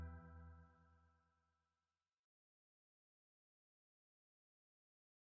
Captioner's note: silence